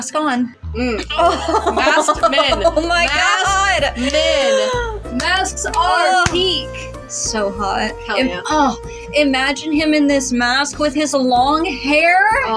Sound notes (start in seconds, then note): 0.6 amorous Music; 0.9 flustered Laughs; 2.6 amorous Music; 3.9 inhale; 4.0 clapping; 5.1 amorous Music; 6.8 swoon; 7.1 amorous Music